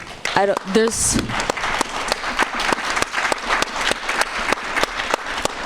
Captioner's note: audience applauding